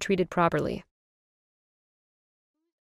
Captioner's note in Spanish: silencio